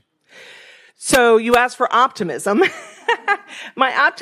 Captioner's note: laughs